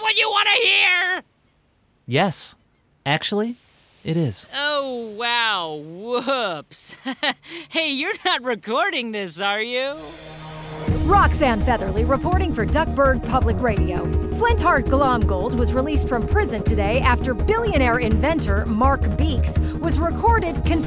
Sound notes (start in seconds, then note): 6.7 chuckling; 10.8 dramatic music playing